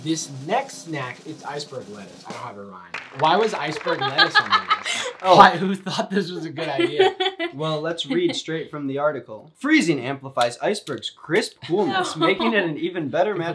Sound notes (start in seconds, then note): 2.9 crowd clapping; 3.8 Elsie laughs